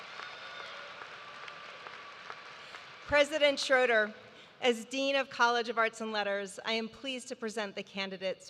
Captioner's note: cheers and applause